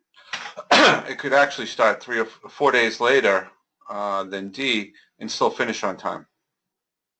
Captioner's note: cough